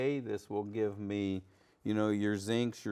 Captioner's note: none